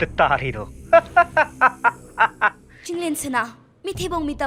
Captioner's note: laughing